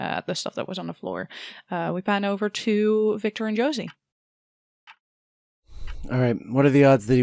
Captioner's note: steady ticking begins in the background